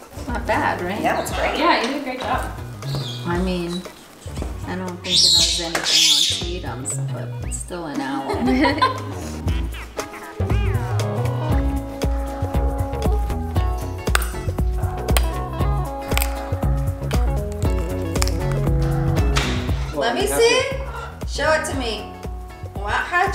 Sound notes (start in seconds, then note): 7.8 laughing; 9.6 cheerful music; 14.3 pumpkin cracking